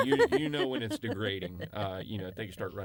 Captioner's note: laughter